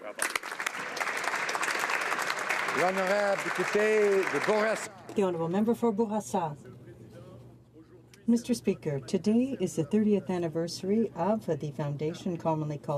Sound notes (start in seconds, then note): 3.8 applause